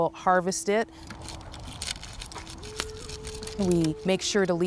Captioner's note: pole scratching